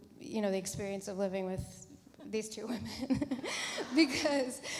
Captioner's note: laughs